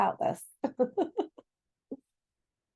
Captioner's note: laughs